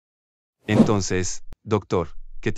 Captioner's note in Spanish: FX - Whoosh - 03